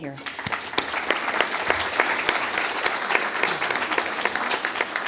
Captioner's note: applause